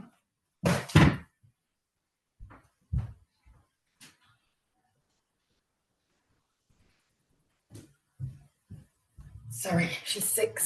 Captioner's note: silence